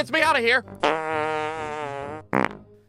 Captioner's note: frrrrrrt